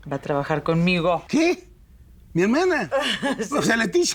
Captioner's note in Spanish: Ríe